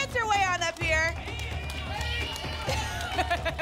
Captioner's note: audience shouting letters; laughs